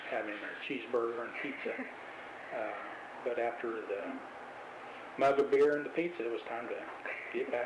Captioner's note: laughs